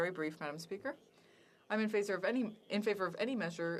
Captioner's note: speaking French